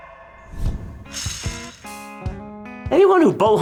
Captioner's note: metal whirring